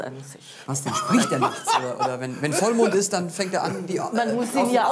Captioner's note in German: lacht